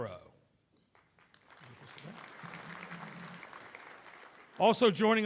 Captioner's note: applause